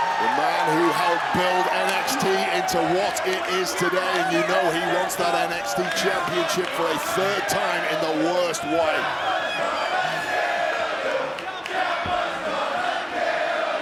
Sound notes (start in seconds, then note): 9.3 audience chanting